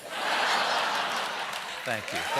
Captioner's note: laughter; cheers and applause